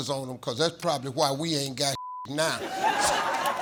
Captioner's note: beep; audience laughing